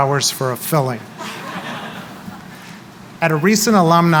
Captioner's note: laughter